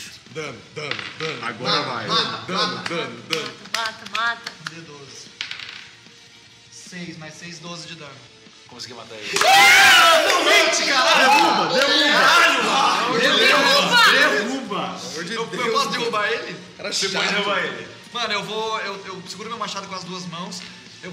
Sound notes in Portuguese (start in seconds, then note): 9.2 Gritos de comemoração